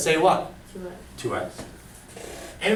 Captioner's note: voiceover